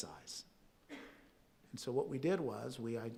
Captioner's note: audience member coughs